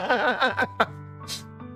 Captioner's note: laughs